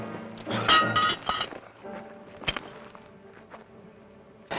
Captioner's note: pan clangs